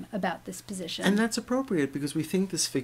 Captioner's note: voiceover